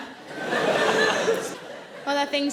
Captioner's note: audience laughing